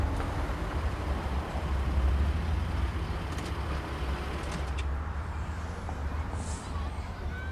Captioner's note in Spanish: Ruido del motor